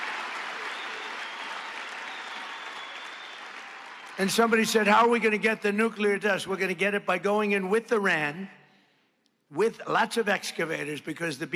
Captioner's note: cheers and applause